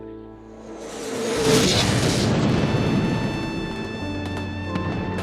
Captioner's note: explosion roaring; gunfire, more explosions echo